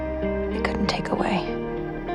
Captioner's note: voiceover